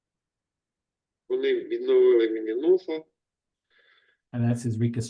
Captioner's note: speaking in foreign language